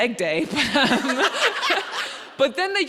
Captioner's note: audience laughing